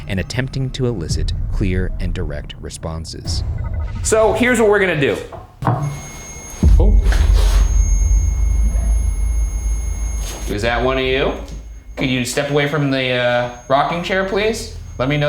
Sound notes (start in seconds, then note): 6.2 REM-pod beeps